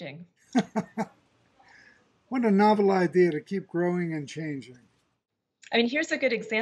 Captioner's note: laughs